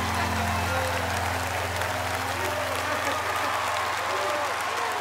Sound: audience applause

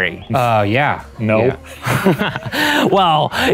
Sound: laughs

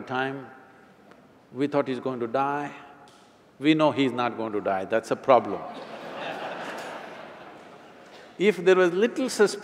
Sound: laughter

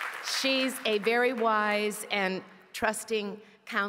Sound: cheers & applause

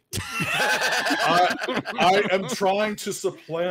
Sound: panelist laughs

